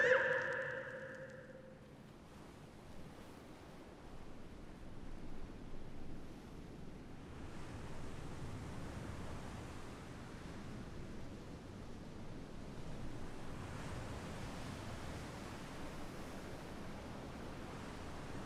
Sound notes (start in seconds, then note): 4.2 waves lapping